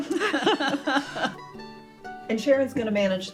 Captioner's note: both laugh